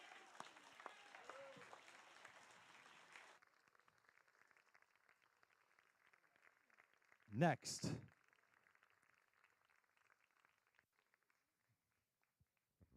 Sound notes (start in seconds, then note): 0.0 applause